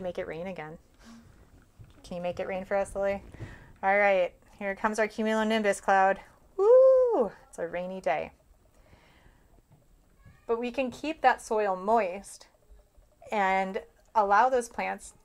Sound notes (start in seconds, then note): 8.8 whew